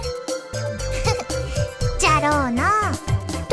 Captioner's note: chuckle